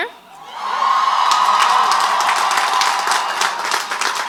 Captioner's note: crowd applauds